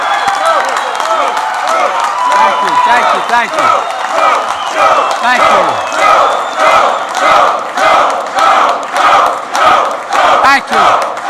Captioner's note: applause